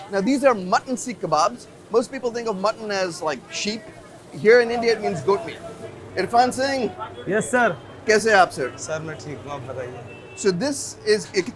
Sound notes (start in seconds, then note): 8.8 host and speak foreign language